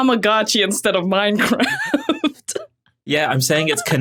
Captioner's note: laughs